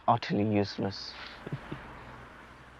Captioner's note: Ayman chuckles